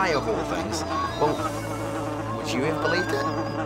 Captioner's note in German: summend